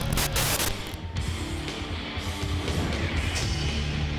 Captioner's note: TV static